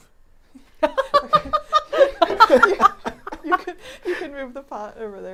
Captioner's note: all laughing